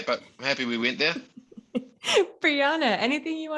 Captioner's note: laughs